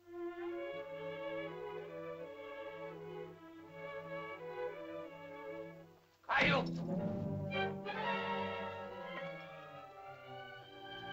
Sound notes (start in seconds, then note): 0.0 whimsical music; 0.0 sentimental music; 6.2 Tumak shouts; 6.3 suspenseful music; 10.0 sentimental music